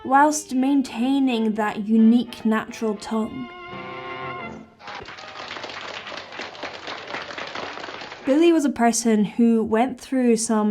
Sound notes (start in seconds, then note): 3.8 jazzy music; 4.5 audience applauding